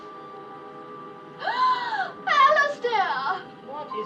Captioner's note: woman gasps